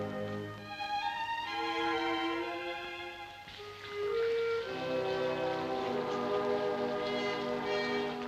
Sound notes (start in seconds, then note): 6.0 water running